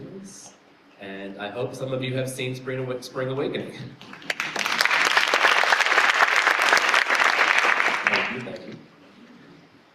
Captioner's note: applause